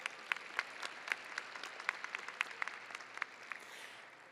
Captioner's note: audience applauding